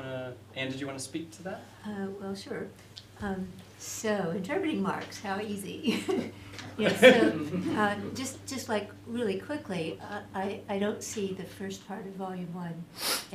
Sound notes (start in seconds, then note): 5.8 laughter